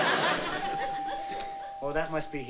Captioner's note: doorbell